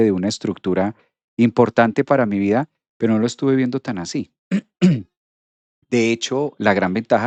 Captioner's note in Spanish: carraspeo